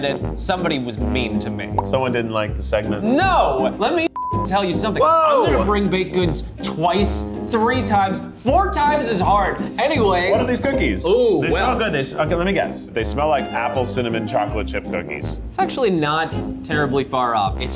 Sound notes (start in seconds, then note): none